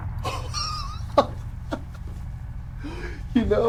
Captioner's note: Lennox chuckles